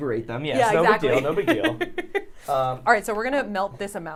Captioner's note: laughs